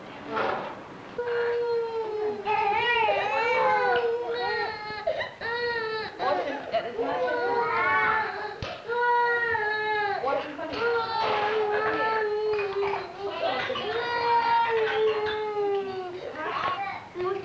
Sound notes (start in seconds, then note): 2.4 crying; 17.2 Spanish speaking